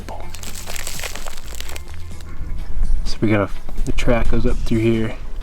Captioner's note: wrapper crinkling